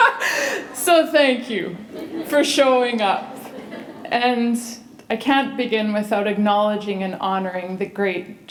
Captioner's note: chuckle